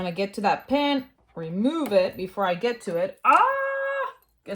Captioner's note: exclaims